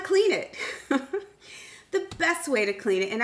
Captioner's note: chuckles